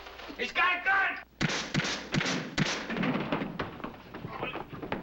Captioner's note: gun firing